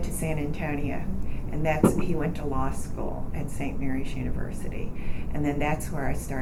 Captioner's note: banging sound